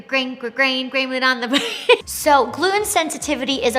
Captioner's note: laughs